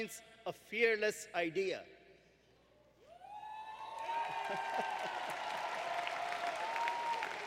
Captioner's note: applause